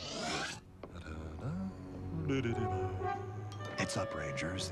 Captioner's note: humming